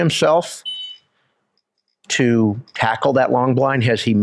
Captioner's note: whistle blows